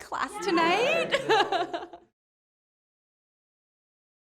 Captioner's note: laughing